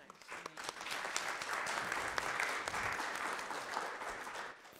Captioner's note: audience applauds